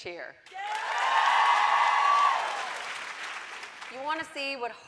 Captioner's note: audience cheering